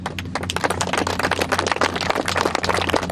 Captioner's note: applause